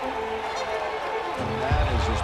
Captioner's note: cheers and applause